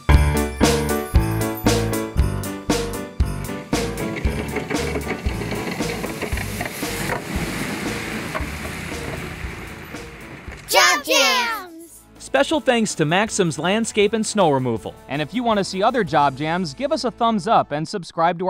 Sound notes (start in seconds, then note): 0.1 playful music; 3.2 plow scraping; 12.2 upbeat music